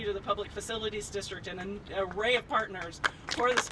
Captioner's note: applauding